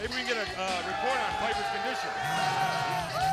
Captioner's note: crowd chatter